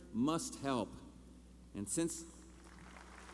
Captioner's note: applause